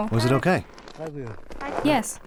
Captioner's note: boy's English Voiceover